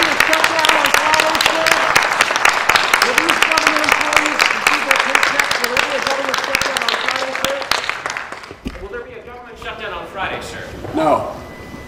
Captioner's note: applause